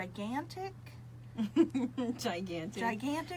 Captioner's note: laughs